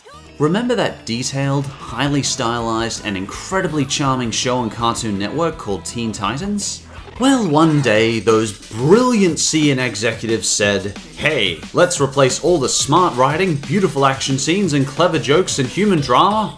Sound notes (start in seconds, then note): none